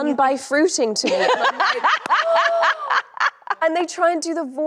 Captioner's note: Anne laughing cheerfully